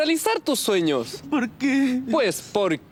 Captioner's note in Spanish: sobbing